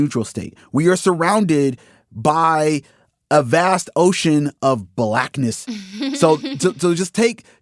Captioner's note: laughs